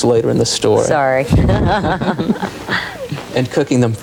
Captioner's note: laughing